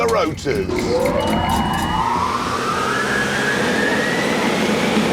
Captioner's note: whirring